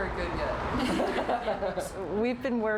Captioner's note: laughing